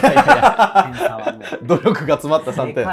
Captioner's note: laughing